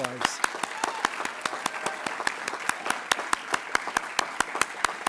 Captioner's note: attendees applauding